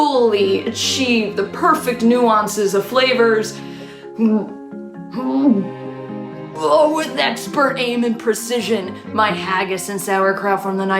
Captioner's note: vomiting noises